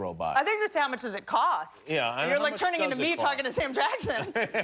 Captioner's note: laughter